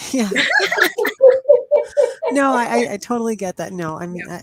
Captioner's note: laughter